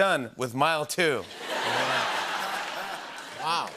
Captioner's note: laughter